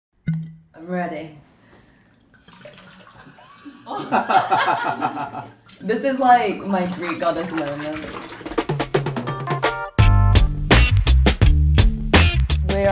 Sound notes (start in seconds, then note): 3.4 laughter; 8.5 upbeat, funky music